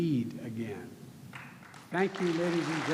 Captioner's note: applause